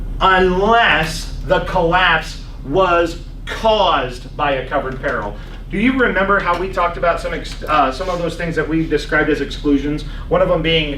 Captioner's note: laughs